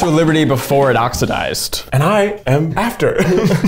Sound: laughing

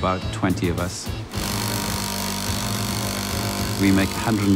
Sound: machine buzzing

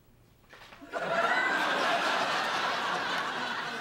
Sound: laughter

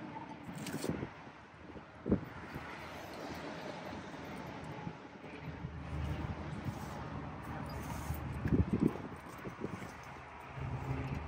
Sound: wind Noise

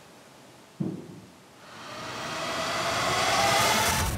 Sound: thump

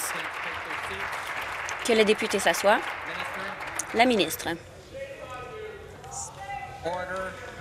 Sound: applause

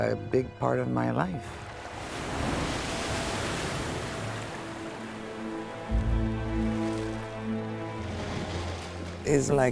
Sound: water splashing

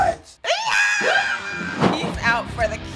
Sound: squealing

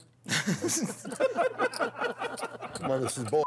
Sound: laughing

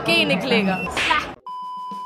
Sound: smack

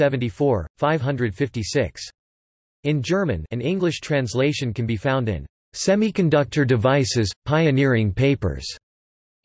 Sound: in German

